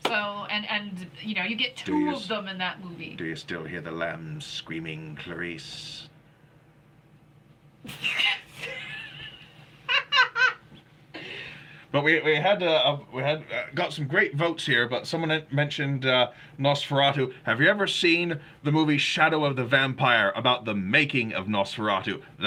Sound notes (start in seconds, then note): 8.4 laughing